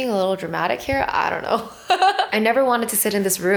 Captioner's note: laughing